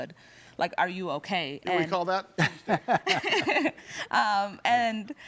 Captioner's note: laughing